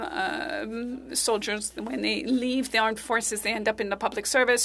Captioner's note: speaking French